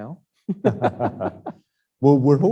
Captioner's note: both laughing